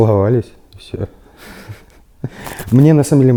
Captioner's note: chuckles